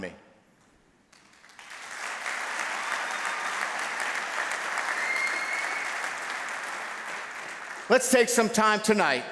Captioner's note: applause